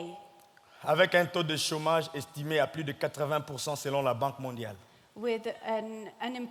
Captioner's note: speaking in French